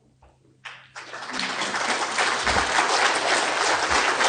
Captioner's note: audience applauding